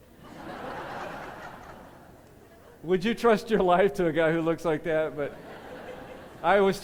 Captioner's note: laughter